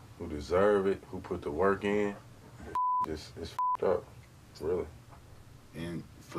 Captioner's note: beep